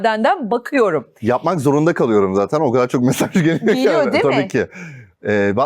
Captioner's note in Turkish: kahkaha